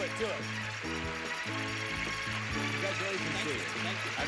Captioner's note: audience applauding